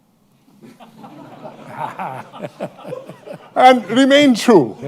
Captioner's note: laughter